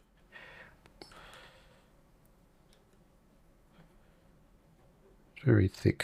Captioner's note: silence